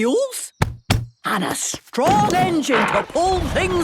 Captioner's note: thumping